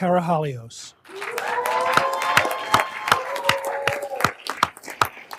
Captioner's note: everyone applauding